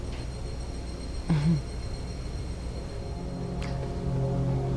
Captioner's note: Allie chuckles